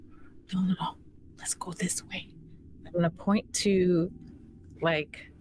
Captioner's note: none